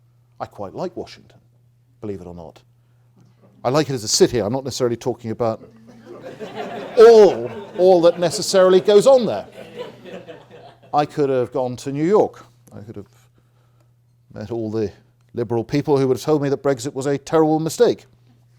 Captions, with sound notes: I quite like Washington, believe it or not. I like it as a city, I'm not necessarily talking about all that necessarily goes on there. (audience laughing) I could have gone to New York, I could have met all the liberal people who would have told me that Brexit was a terrible mistake.